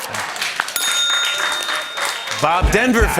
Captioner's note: applause; ding!